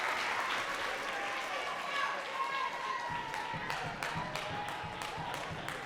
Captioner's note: audience cheering and clapping